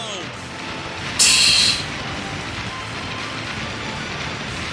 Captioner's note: laughs softly